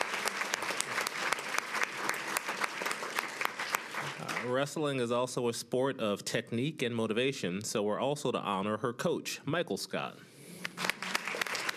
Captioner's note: applause